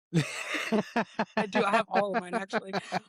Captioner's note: both Laughing